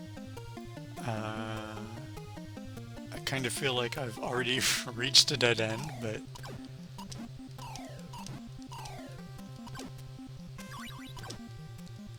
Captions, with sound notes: I kind of feel like I've already [laugh] reached a dead end but